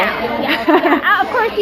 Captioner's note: laughs